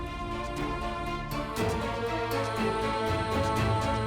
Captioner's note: dramatic vocalisation